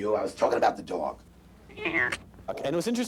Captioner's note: sound of cat